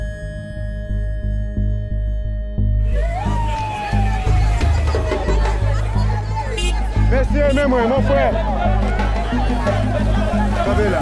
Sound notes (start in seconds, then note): 2.8 siren wailing; 5.3 horn honks; 6.3 crowd clamoring